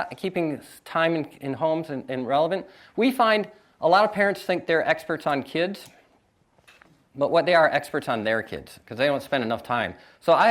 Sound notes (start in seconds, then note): none